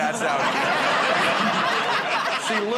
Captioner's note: laughter